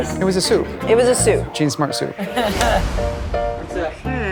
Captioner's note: jen laughs